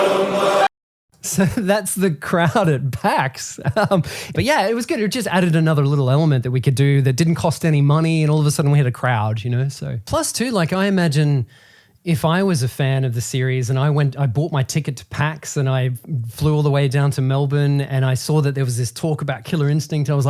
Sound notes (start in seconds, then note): 3.4 laughing